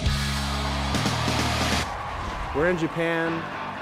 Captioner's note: cheering